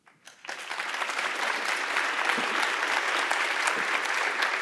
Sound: audience applauding

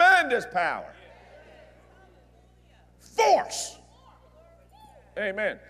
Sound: audience Agrees

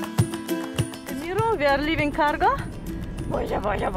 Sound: speaks foreign language

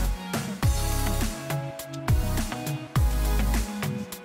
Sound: none

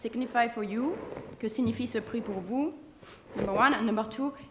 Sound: speaking french

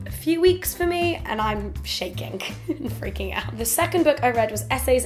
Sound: laughs

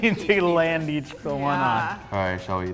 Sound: laughs

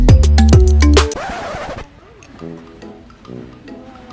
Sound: record scratches; playful music

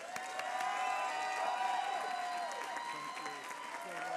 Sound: applause

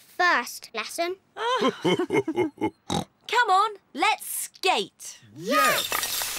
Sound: both laugh

